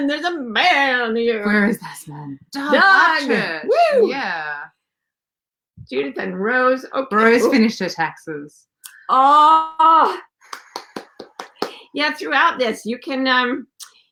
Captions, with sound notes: There's a man here. - Where's this man? Doug Upchurch. - Judith and Rose. - Rose finished her taxes. (cheering and clapping) - Yeah, throughout this,